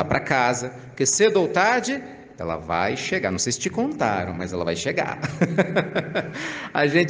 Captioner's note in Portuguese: risadas